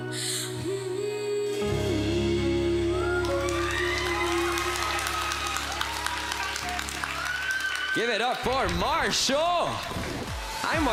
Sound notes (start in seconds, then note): 3.0 crowd cheers, applauds